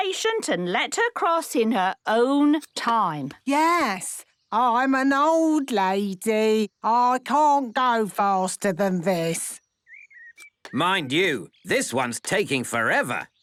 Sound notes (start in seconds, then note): none